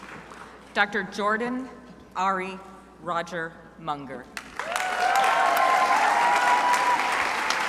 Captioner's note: crowd applauding